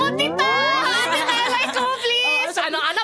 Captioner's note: laughs